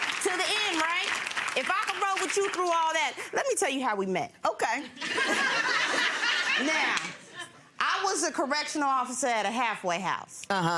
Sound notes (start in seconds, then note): 0.0 applauding; 10.5 laughing